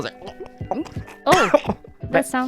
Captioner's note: coughs